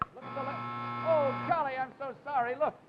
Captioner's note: buzzer chimes